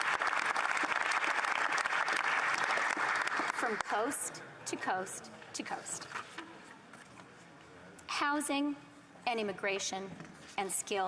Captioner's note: applause